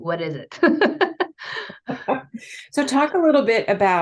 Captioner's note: laughs